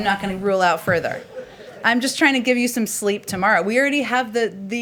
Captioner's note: laughter